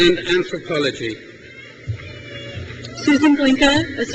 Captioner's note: crowd cheers